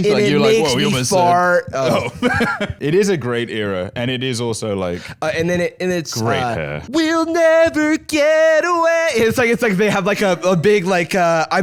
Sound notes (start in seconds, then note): 1.6 laughs